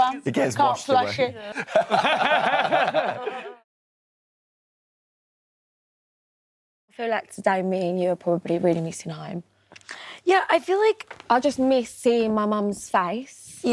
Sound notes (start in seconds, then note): 1.4 laughs